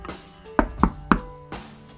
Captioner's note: knocking on door